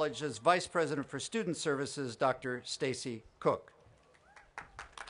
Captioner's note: applause